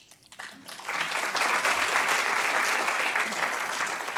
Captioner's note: applause